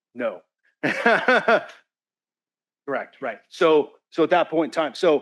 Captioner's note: laughs